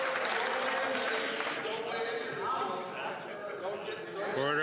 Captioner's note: some Applause